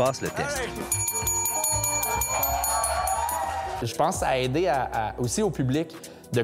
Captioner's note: bell ringing